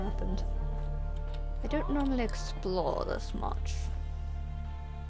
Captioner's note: odd accent